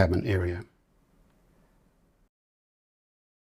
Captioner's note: silence